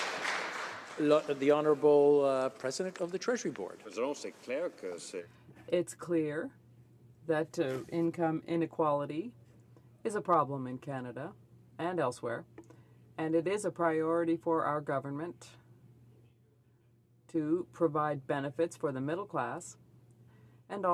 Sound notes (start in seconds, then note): 2.2 some Applause